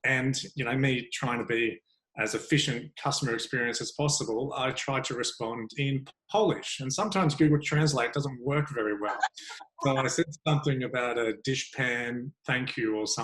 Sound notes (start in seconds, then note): 8.7 laughing